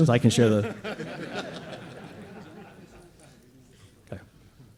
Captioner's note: laughter